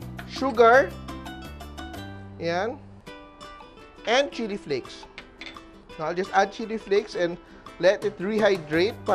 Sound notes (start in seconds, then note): 5.3 clang